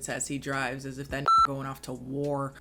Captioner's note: beep